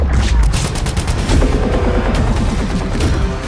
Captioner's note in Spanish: turbina de helicóptero